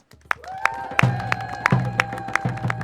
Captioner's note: applause